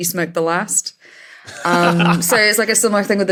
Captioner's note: laughs